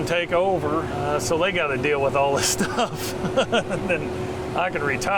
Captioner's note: chuckle